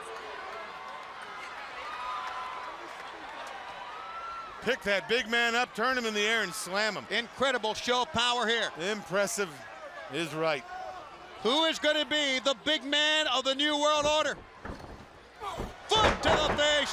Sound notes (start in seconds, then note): 1.1 crowd chatter; 11.4 crowd chatter